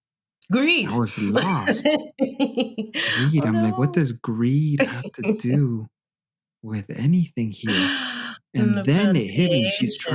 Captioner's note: laughter